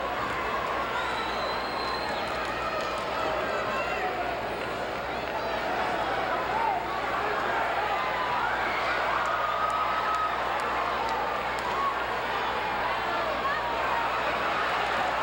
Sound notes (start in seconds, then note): 8.1 audience chattering